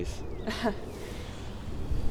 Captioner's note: Talia laughs